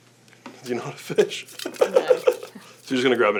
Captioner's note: laughs